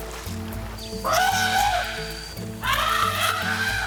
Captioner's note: elephant trumpets